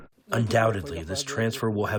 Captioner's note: through translator